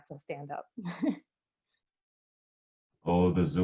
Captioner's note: chuckles